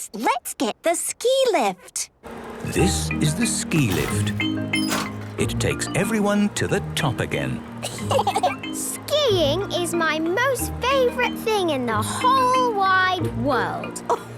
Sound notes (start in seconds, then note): 7.8 laughter